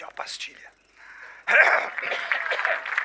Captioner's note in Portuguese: pigarro; tosse catarrenta